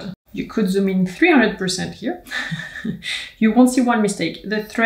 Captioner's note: laughs